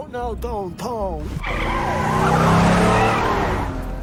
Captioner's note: tires screech